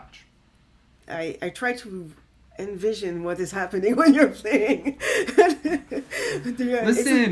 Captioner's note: laughs